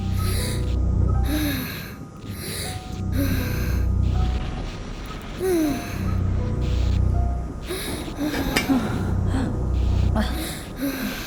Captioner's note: child sighs